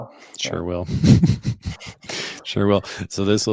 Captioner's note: chuckling